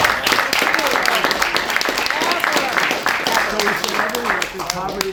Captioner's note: applause